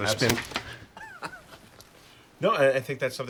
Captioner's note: laughs